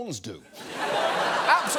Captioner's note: audience laughs